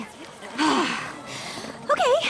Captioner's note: frustrated sigh